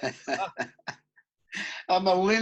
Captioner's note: laughing